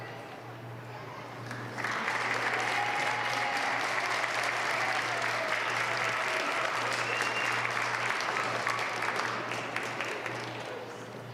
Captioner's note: applause